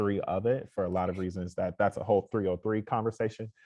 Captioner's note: none